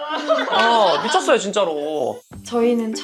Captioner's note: laughing